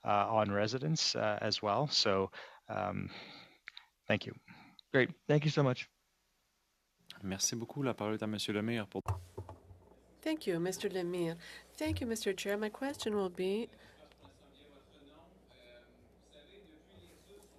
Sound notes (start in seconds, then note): 12.0 speaking French